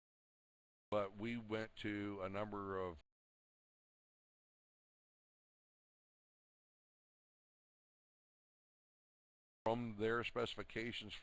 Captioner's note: audio drops; audio drops